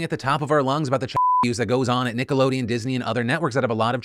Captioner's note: beep